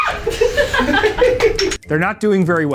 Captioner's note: group laughing